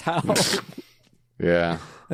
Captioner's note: laughing